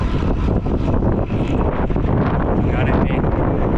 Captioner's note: sound of wind